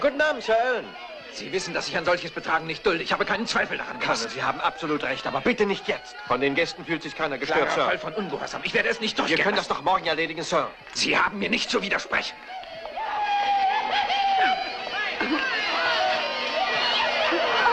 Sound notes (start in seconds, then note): 12.2 whooping and hollering